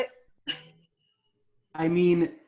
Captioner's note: chuckling